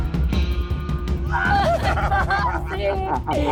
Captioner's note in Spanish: Risas